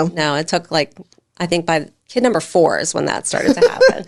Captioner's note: laughing